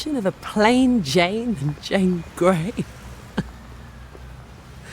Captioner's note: chuckles